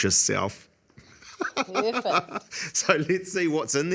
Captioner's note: laughs